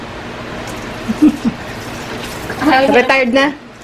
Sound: laughs

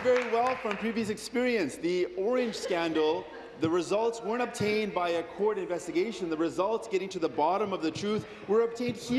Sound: applause

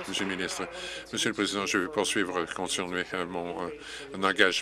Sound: applause

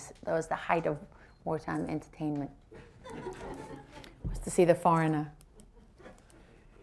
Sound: laughter

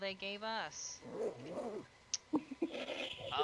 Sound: random Zipper sound

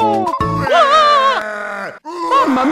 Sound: big cry

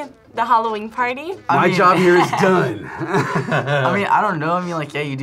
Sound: laughs

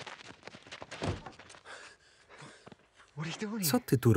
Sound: heavy breathing

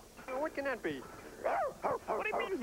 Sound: woof

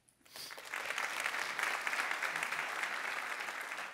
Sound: audience claps

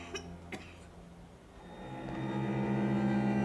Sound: coughing

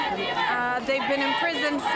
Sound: chanting

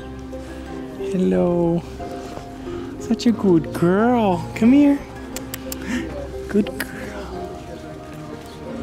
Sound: tongue clicks

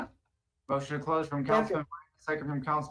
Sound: audio distortion

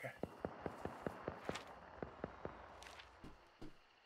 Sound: distant rapid gunshots

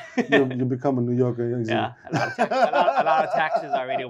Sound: laughs

